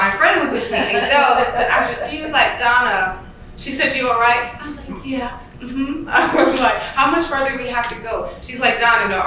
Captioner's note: giggle